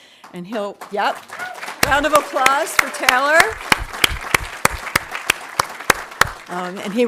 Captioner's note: audience applauding